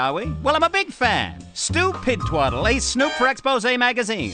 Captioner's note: none